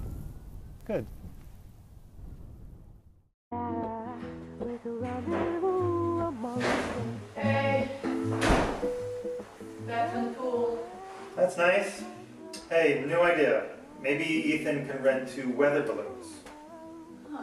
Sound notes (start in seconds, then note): 3.6 music playing in background; 3.6 we hear door shutting and voice from off-screen